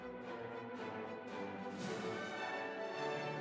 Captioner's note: none